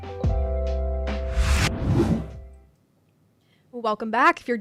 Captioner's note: air whooshing